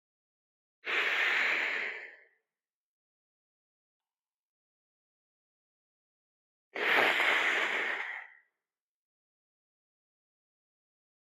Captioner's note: breath